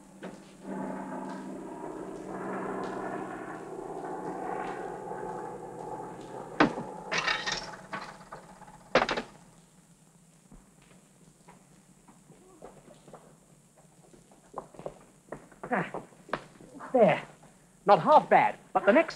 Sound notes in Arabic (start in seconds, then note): 0.0 هدير الطائرة; 6.6 صوت رنين الهاتف; 7.1 صوت قعقعة العملات المعدنية